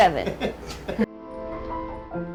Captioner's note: laughing; lighthearted piano music